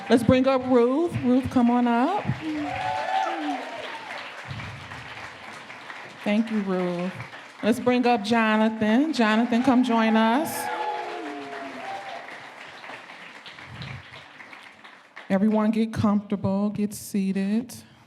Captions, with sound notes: Let's bring up Ruth. Ruth, come on up. (audience clapping) Thank you, Ruth. Let's bring up Jonathan. Jonathan, come join us. (audience cheering and clapping) Everyone get comfortable. Get seated.